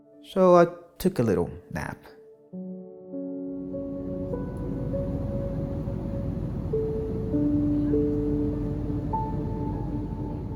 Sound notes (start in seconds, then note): 3.7 plane engine humming; 4.4 gentle music continues